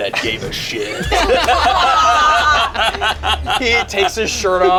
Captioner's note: group laughs